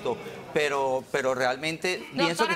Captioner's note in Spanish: abucheos